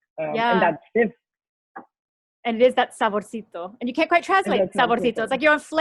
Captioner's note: foreign language spoken